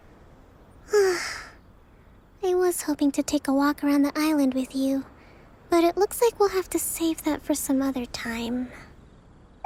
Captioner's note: sigh